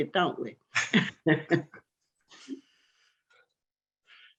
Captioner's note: laughs